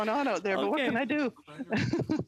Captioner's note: laughter